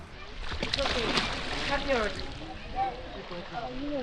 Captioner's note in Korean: 첨벙